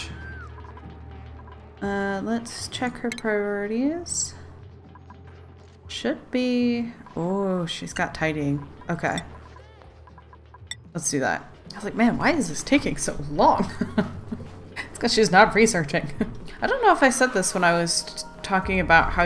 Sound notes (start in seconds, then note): 13.6 laughs